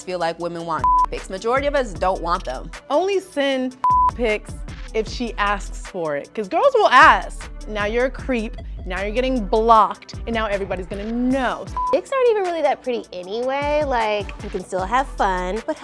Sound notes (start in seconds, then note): 0.8 beep; 3.8 beep; 11.7 beeps